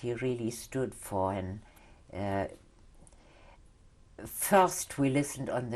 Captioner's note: pauses for 3 seconds